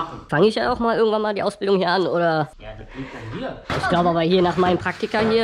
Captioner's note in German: none